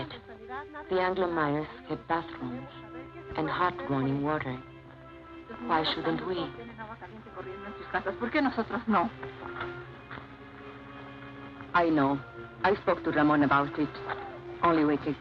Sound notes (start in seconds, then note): 7.6 woman speaks Spanish